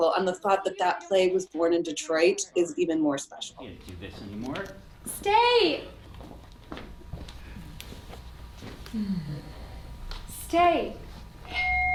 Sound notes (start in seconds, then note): 6.0 footsteps receding; 11.5 beeping